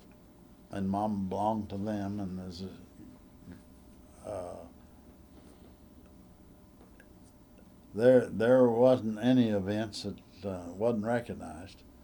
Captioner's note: laughs